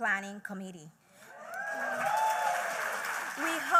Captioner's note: applause